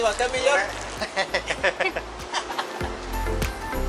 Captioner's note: laughter